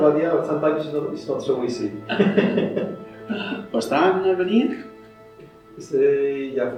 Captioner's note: conversation in English-Italian